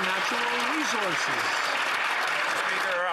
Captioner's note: some Applause